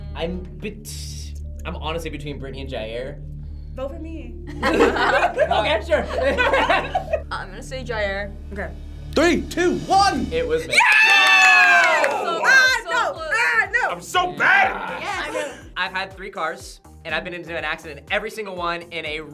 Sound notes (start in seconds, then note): 4.5 group laughs; 10.6 group cheers